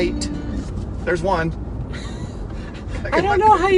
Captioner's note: laughs